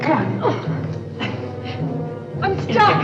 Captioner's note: grunting